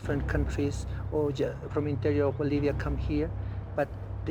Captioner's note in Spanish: hablando en aymara